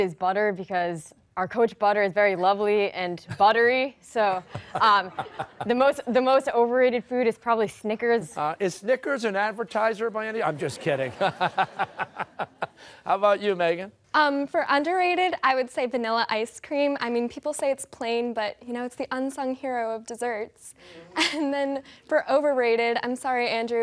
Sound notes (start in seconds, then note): 10.5 laughter